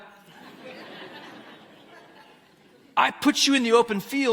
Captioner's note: audience laughs